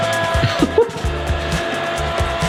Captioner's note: giggles